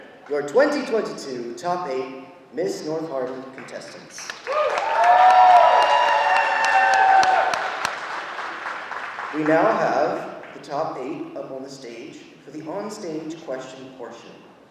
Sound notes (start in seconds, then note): 4.2 audience applauding